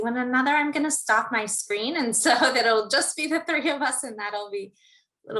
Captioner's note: laugh